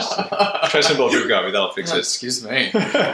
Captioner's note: laughter